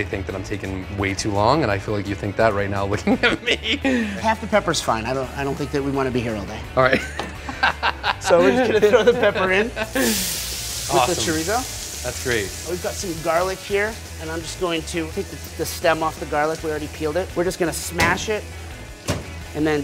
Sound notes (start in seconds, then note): 3.1 laughs; 6.9 laughs